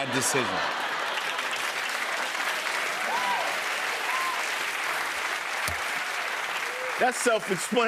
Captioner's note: laughter, cheers and applause